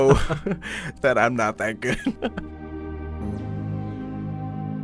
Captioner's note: voiceover